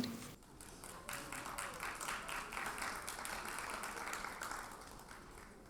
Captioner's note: audience applauds